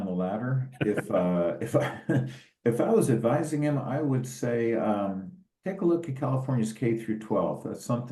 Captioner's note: laugh